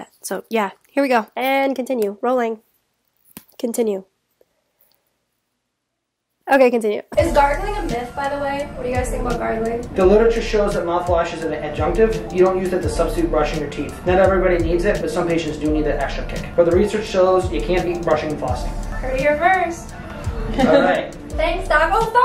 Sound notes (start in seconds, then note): 20.4 laughter